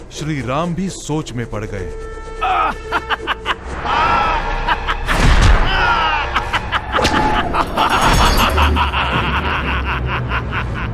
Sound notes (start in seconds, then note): 2.5 laughs; 3.8 groans; 6.0 laughs